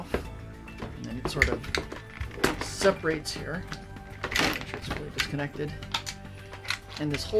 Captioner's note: rustling